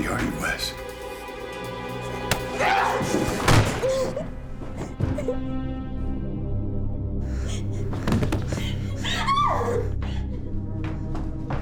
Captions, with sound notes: YOU'RE NOT A LEFTY ARE YOU WES? [PUNCH, GRUNT] [GUN SHOT] [ABBY CRYING] [EXCLAIMS]